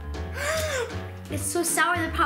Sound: gasp

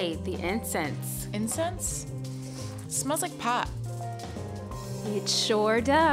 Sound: sniffs

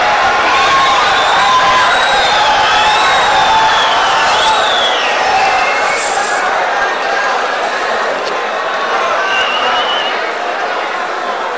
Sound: wild applause and cheering for 22 seconds

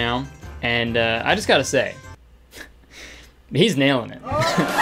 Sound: audience laughing; chuckling

